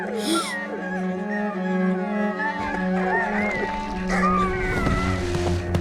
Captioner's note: gasping; whimpering